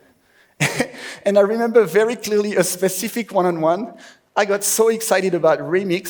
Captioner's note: laughs